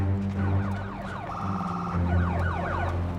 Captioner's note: emergency vehicle siren